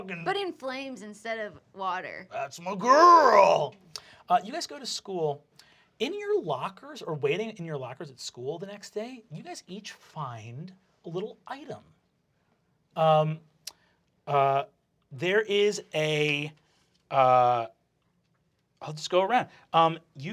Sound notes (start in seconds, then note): 4.5 normal voice